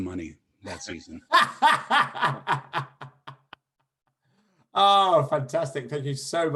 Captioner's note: laughter